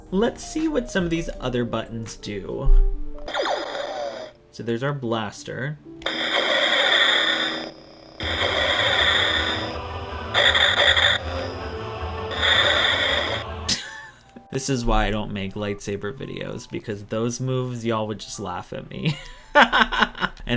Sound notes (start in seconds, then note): 3.2 blaster firing sound; 6.0 lightsaber sounds